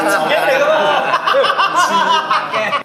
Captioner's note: OR KIA laughs